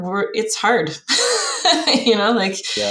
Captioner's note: laughs